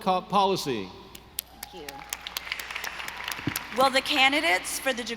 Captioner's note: audience applauding